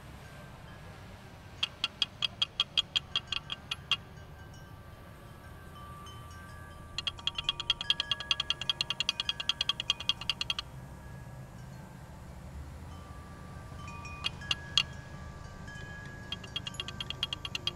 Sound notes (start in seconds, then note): 7.0 rattling; 14.5 wind chimes chiming